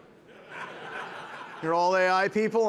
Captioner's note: participants laughing